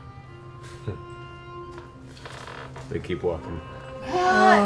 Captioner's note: grunts